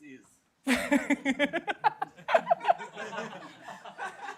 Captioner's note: laughter